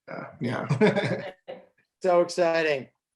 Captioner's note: chuckles